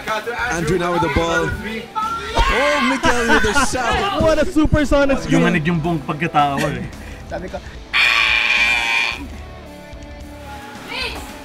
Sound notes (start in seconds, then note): 2.6 laughing; 7.9 super sonic scream